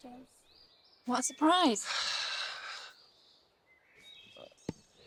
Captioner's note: sighing